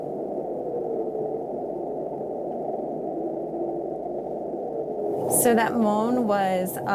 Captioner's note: whale moan